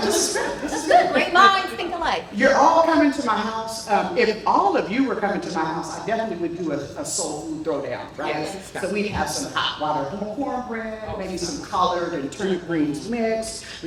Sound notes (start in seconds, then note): 1.4 chatter